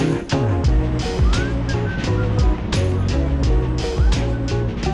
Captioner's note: whistling